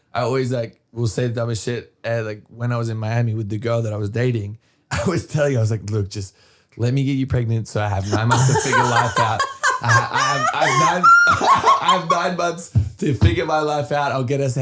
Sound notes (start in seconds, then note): 8.0 laughing